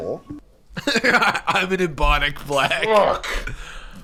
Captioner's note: laughing